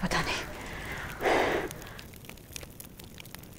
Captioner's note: Sakshi exhales